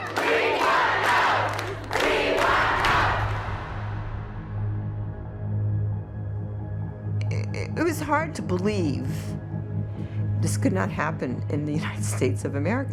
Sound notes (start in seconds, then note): 8.2 stammers